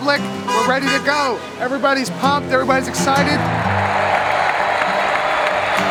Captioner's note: cheers